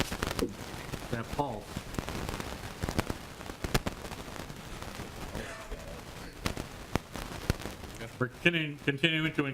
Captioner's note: audio intereference